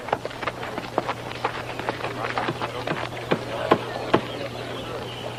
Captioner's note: hammering continues